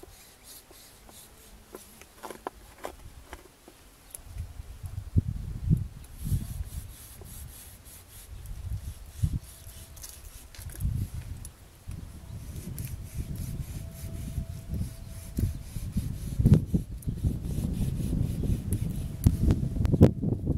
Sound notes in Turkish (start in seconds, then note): 0.2 Kesme sesi takırtılar; 4.1 Kesme sesi